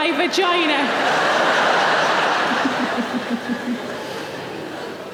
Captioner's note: audience laughing